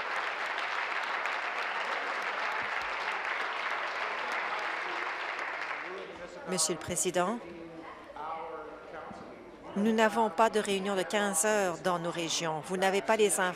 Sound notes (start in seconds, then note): 2.2 applause